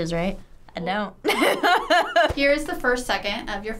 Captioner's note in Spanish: risas